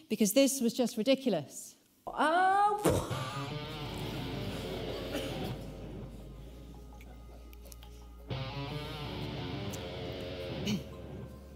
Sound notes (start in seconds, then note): 2.8 laughs; 8.3 upbeat rock music